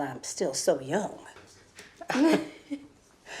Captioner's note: Tracy chuckles